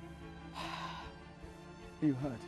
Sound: sighs

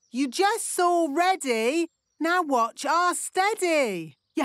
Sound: none

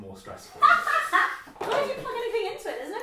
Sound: laughter

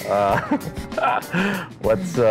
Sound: laughing

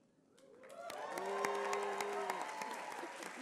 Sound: applause

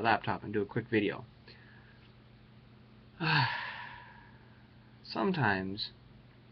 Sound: sigh

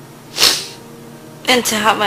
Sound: sniffs

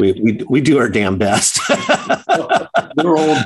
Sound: laughs

